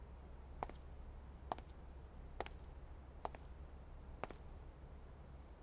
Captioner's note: Footsteps